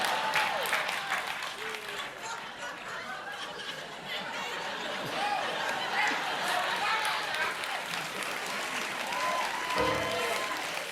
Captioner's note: piano riff; laughter